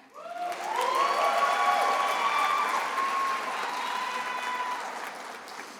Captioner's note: attendees applauding and cheering